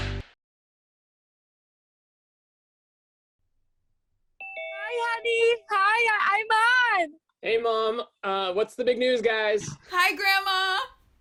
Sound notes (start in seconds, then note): 4.4 Zoom ding